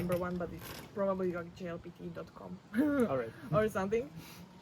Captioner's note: laughs